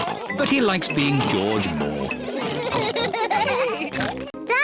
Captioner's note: all laugh